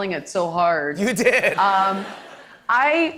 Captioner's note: laughing